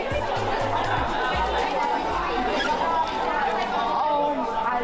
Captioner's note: people chattering